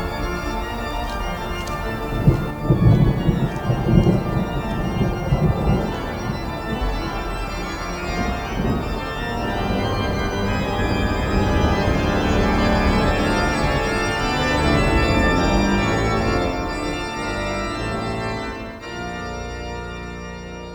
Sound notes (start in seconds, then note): 0.3 organ instrumental music; 3.3 thunder rolling; 6.3 organ instrumental music; 10.2 powerful organ music; 14.9 powerful organ music